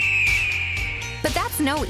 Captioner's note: eagle screeching